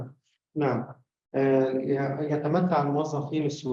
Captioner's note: speaking arabic